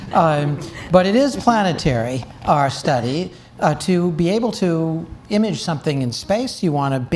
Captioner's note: audience Laughing